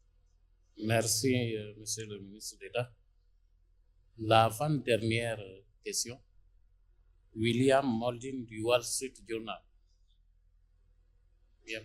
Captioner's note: in French